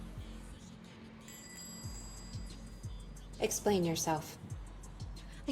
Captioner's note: door chime rings